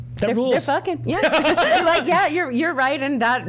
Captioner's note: laughing